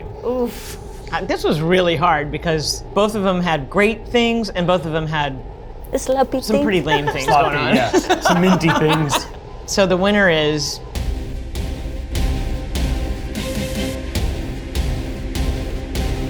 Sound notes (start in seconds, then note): 6.5 laughs; 11.0 dramatic music